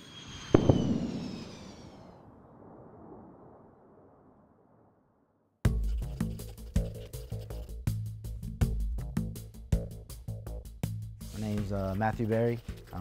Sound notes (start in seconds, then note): 0.2 sonic Boom; 2.5 jet Flying